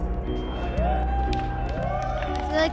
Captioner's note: cheering